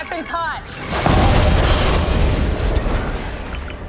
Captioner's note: explosions